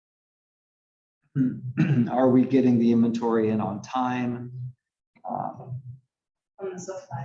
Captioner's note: cough